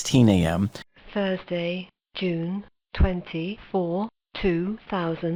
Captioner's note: computer Voice